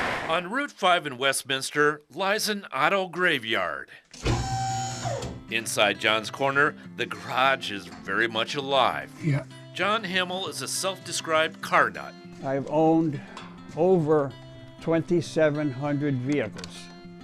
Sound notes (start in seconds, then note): 4.1 hydraulic jack whirring